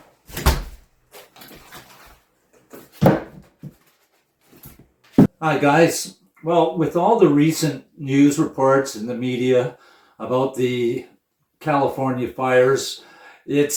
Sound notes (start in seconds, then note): 0.3 door closing; 2.8 wood dropping